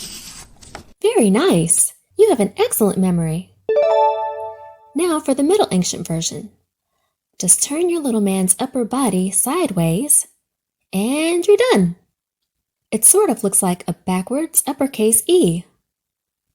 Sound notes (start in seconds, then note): 3.7 check mark dings